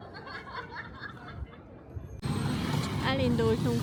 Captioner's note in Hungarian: nevetés